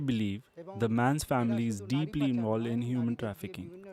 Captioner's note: speaking alternate language